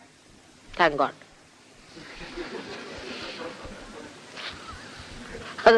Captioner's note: laughter